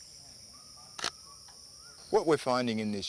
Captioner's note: shutter clicks